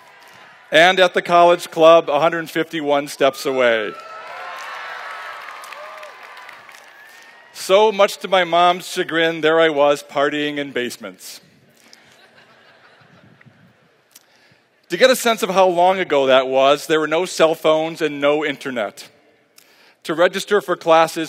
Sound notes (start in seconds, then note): 3.9 applause; 11.9 laughter